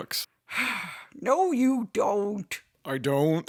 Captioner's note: sighs